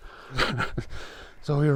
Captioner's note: laughing